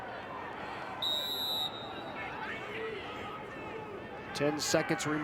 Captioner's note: whistle blows